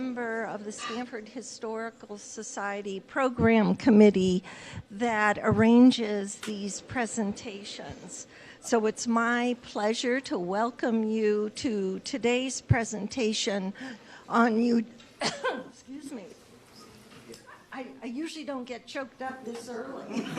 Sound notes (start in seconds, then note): 15.0 chokes up